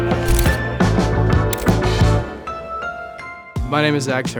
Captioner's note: camera shutter clicking